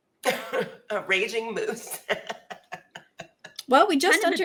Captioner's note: laughs